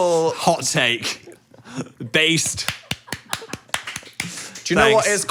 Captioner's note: Dan clapping